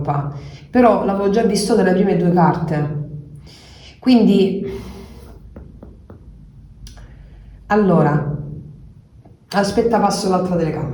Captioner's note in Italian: sbuffare